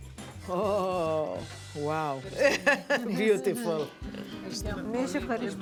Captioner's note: laughs